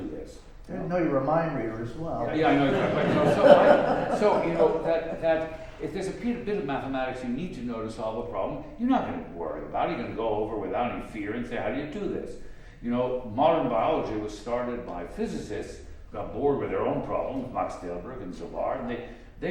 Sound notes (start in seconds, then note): 2.4 laughter